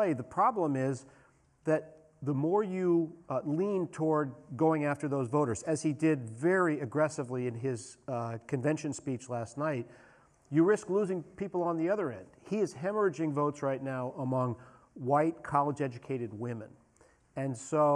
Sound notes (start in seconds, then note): none